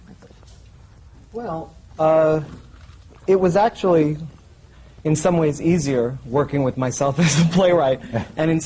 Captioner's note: laughs